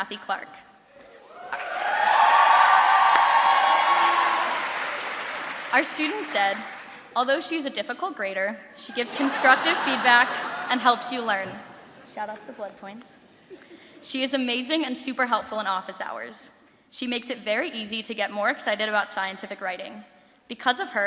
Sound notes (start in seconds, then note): 6.1 cheering; 13.4 laughter